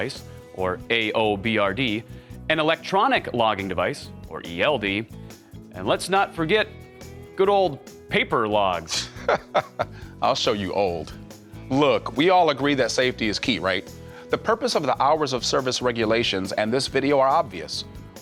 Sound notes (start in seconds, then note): 8.8 laughs